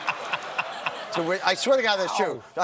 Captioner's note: laughter